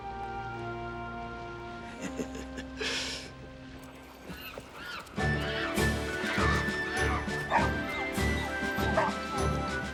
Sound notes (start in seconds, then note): 2.0 Jack chuckling; 5.3 adventurous music